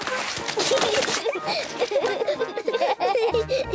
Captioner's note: both laugh